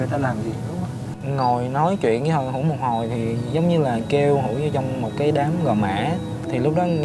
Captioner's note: huu